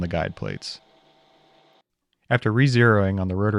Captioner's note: machine whirring